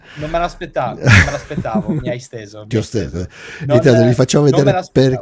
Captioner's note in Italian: risate